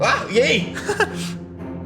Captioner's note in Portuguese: risada